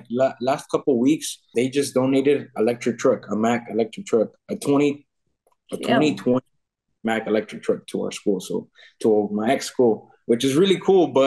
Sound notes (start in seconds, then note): none